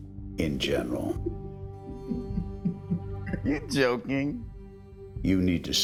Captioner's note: chuckles